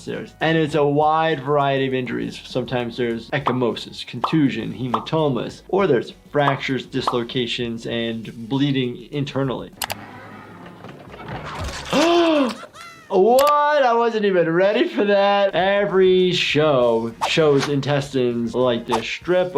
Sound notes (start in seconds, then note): 11.9 gasps